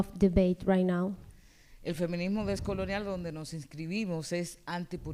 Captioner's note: speaking spanish